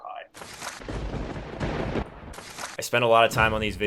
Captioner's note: thunder cracks